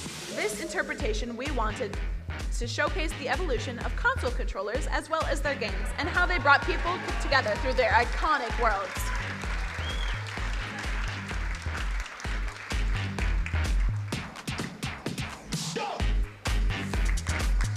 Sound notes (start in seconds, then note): 9.4 crowd applauding; 9.4 upbeat music